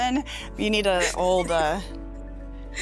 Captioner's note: laughing